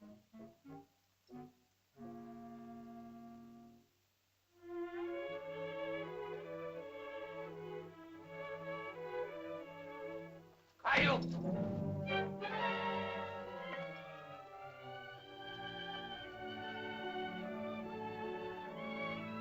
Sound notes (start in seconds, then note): 0.0 whimsical music; 4.6 sentimental music; 10.7 Tumak shouts; 10.9 suspenseful music; 14.5 sentimental music